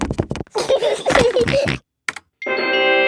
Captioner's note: george giggles and snorts; video game music plays